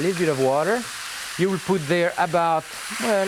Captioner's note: food sizzling